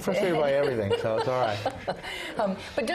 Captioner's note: laugh